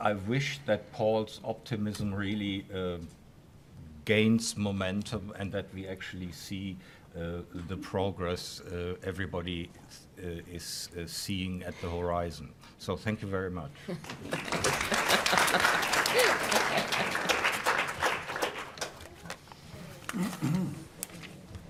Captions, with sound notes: I wish that Paul's optimism really gains momentum, and that we actually see the progress everybody is seeing at the horizon, so thank you very much. (applause)